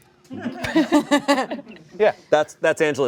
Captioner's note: laugh